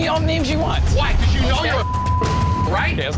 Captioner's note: beep